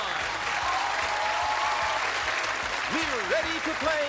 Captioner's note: cheers and applause